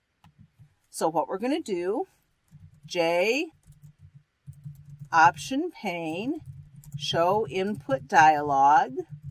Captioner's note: typing